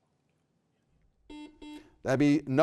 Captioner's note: buzzer buzzing